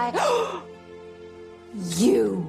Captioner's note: giggling; gasps